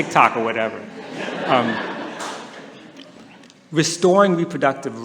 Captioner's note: laughter